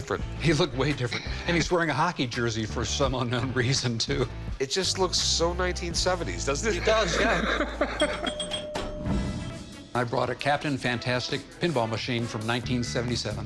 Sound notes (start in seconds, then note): 6.8 laughter; 7.9 bells ringing